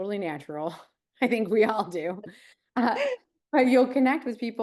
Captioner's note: chuckles